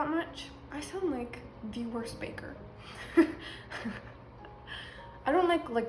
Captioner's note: laughs